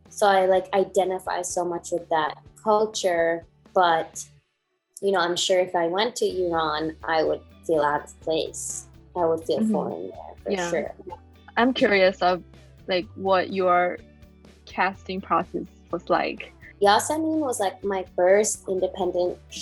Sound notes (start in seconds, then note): 9.2 murmurs